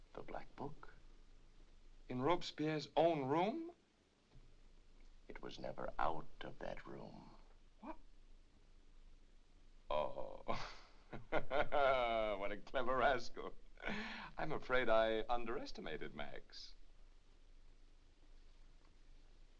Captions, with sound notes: - The black book. - In Robespierre's OWN room? - It was never OUT of that room. - What? Oh...(laughs) What a clever rascal! I'm afraid I underestimated Max.